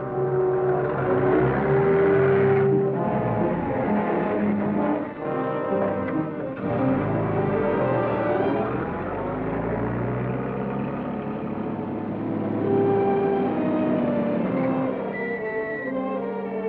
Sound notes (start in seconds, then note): 0.0 car rumbling; 3.7 tense music